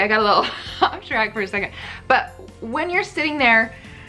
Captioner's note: laughs